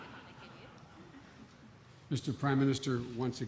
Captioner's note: laughter